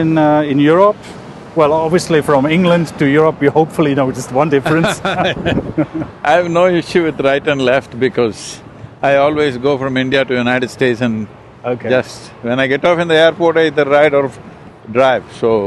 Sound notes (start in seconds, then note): 4.6 both Laugh